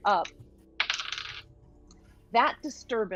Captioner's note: dice clacking